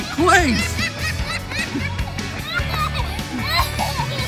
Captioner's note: child laughs